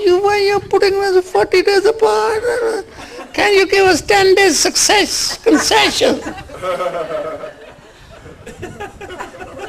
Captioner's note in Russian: смех